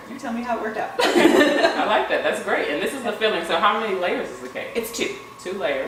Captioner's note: laughter